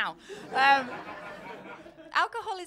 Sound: laughter

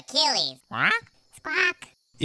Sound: squawk

